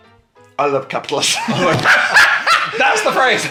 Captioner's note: all laughing